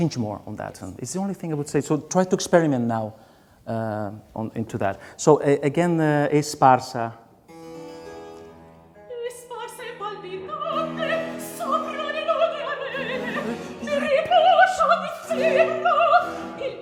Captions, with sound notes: Change more on that one, it's the only thing I would say, so try to experiment now into that. So again. [SPEAKING IN A FOREIGN LANGUAGE] [SINGING IN A FOREIGN LANGUAGE]